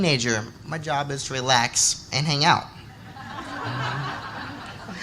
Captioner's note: laughter